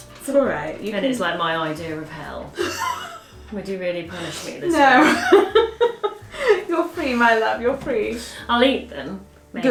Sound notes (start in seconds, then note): 2.6 laughing